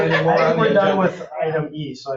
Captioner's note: laughing